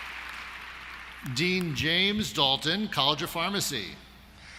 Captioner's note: applause